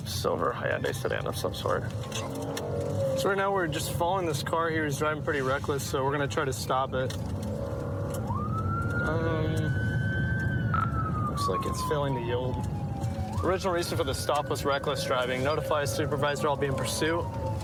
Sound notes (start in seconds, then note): 7.9 siren blaring